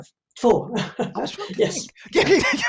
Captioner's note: laughs